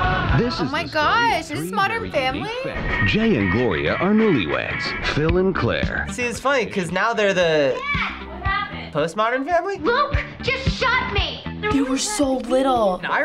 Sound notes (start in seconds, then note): 2.9 voice-over